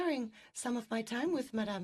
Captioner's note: speaking French